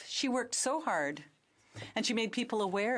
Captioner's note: speaking French